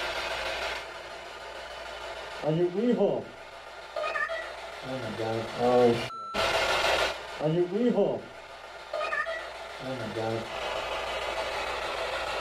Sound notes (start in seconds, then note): none